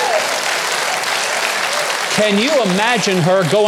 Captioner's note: audience yelling; audience applauding